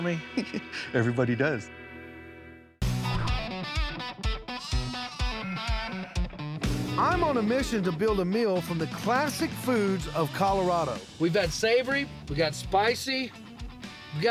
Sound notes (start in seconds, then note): 0.1 chuckling; 4.3 baaing